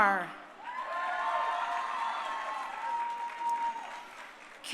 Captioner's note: crowd cheering